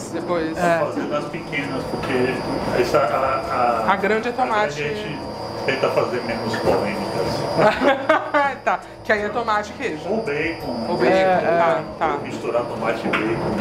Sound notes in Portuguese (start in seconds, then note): 7.6 risos